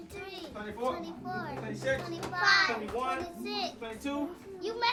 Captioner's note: kids continue counting